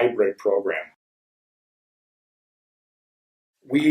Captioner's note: silence